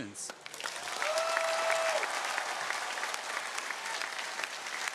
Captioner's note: audience cheering